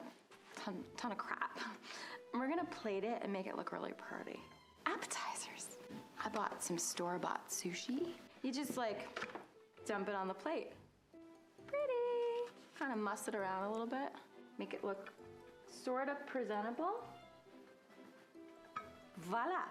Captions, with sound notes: and I bought all kinds of crap. We’re going to plate it and make it look really pretty. Appetizers. I bought some store-bought sushi. [crinkling sounds] You just like dump it on the plate. Pretty! Kind of muss around a little bit make it look sort of presentable.